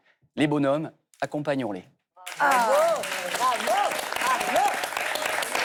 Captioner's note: applause